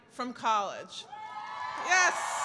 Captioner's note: cheering and applause